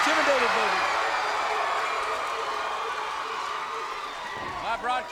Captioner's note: audience cheering